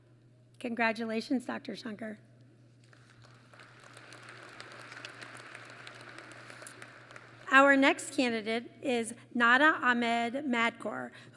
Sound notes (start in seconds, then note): 2.8 applause